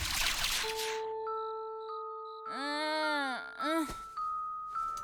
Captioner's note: moaning